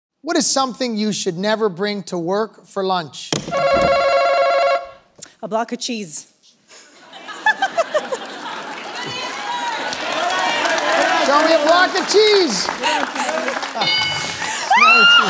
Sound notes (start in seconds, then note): 3.5 answer button rings; 8.7 laughter